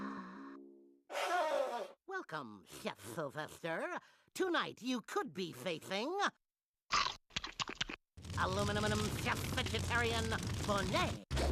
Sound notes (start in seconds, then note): 6.9 chomping